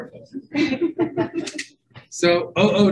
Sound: group laughing

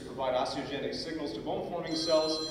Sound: cell phone ringing

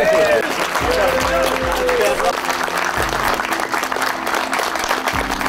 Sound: cheering; clapping

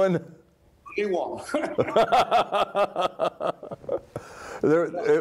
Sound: laughter

